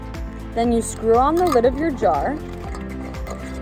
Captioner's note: water glugging; jar lid clinking; jar lid rubbing; light upbeat music